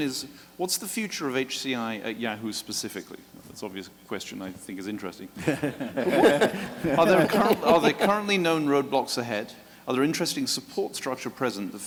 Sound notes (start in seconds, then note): 5.4 laughing